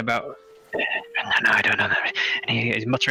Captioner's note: mutters